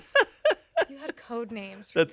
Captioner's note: laughs